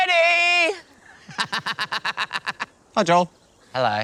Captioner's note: laughs